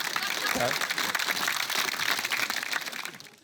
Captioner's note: applause